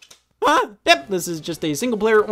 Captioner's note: exclaims